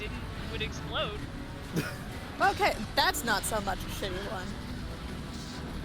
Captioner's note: laughs